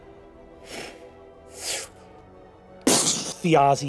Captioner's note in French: explosions; sifflements